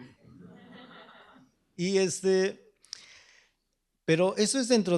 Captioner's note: speaking spanish